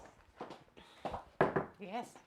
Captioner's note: door knocking